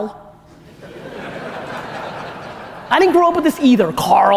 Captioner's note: audience laughter